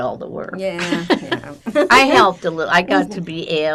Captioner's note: laughing